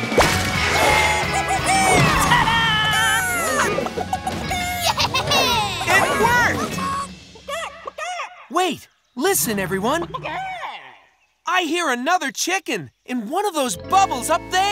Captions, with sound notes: Woo-hoo-hoo-hoo! Ta-da! [clucking] - Yeah! - It worked! [distant clucking] Wait, listen, everyone! [distant clucking] I hear another chicken in one of those bubbles up there!